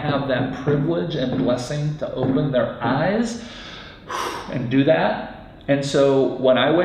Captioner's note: exhales